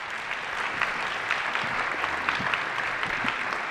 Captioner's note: applause